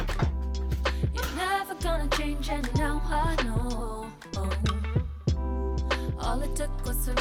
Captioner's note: clap